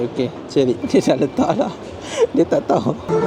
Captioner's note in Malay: ketawa